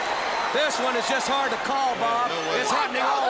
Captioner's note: crowd chatter